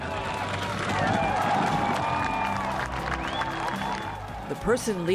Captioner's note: cheering